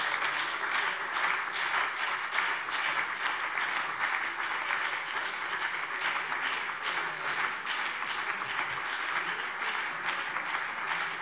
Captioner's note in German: Beifall BÜNDNIS 90/DIE GRÜNEN, CDU und DIE LINKE